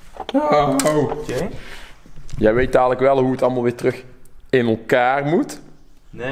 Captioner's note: cry of utter despair